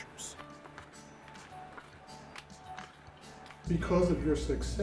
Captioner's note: paper rustling